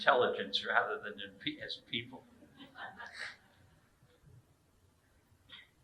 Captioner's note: audience laughing